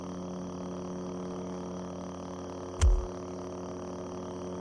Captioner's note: body thuds